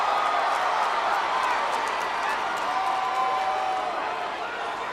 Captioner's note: audience cheers